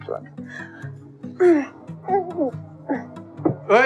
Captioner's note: Grunts